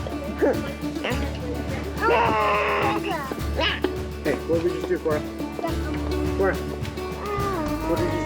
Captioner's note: laughing; baby cooing